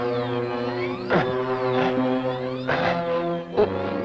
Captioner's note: thor gasps